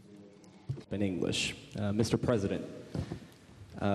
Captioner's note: speaks English